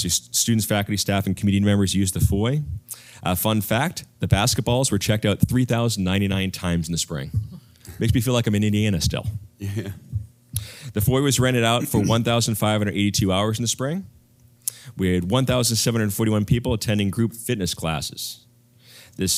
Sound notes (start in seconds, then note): 11.8 cough